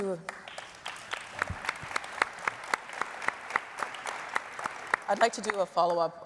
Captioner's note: audience applauding